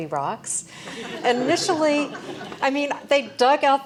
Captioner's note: laugh